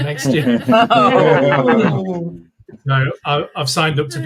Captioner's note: laughing